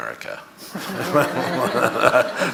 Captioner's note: audience laughing